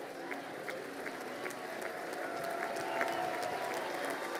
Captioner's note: crowd applauding